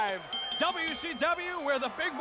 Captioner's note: bell ringing